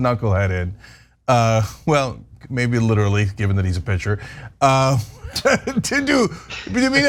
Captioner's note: laugh